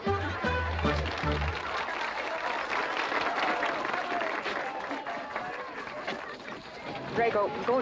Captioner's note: western party music; audience applauding